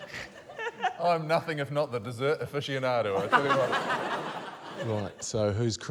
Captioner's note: laughter